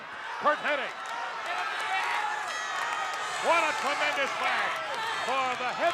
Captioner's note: applause